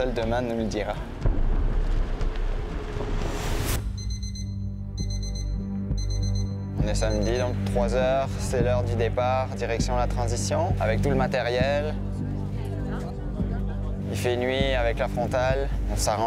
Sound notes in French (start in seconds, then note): 4.9 sonnerie du réveille-matin